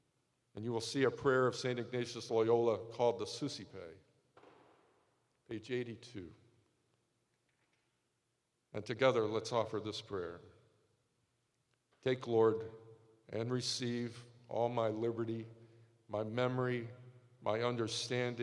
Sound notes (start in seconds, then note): none